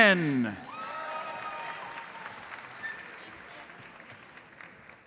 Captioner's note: audience applauds